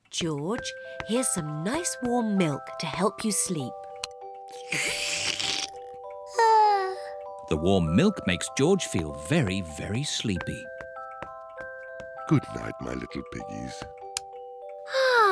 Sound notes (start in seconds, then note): 6.6 yawns